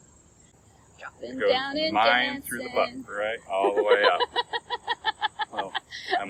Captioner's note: laughing; laughing